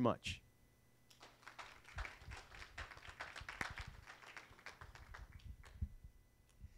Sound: applause

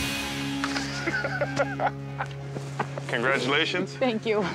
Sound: laughs

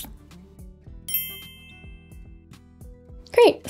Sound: bell chimes

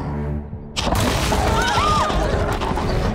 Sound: screaming

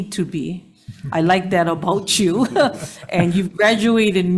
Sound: chuckles

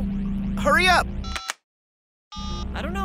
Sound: beeps

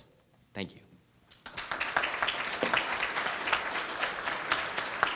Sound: audience applauds

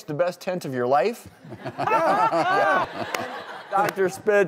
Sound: laughing

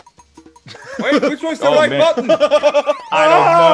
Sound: laugh

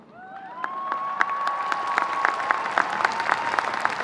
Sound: audience cheering

